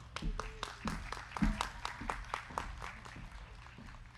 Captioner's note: crowd clapping